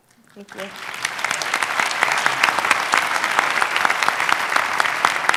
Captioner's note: audience clapping